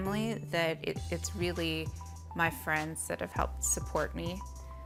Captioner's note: none